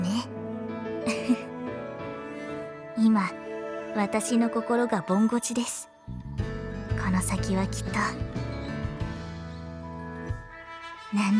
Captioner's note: giggle